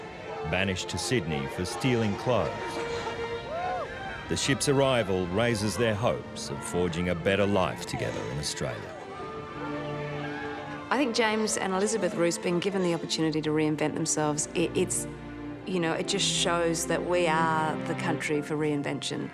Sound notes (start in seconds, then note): 3.1 people cheering